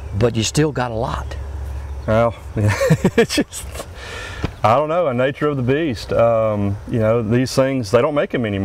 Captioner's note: laughs